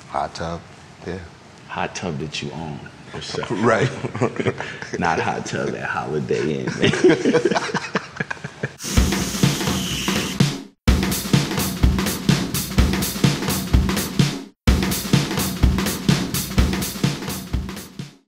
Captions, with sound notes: - Hot tub, yeah. - Hot tub that you own yourself. - Right. - Not hot tub at Holiday Inn. [laughs] [upbeat music]